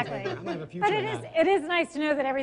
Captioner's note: laughing